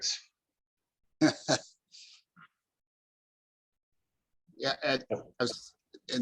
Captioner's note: laughter